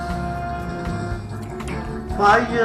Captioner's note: kissing